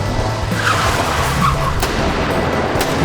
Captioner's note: groaning; tyres screeching; guns popping